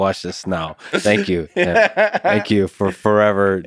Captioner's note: Tim laughs